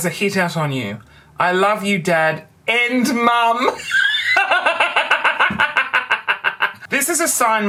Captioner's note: raucous laughter